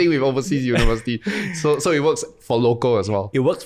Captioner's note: chuckles